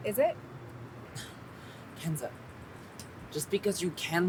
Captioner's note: scoffs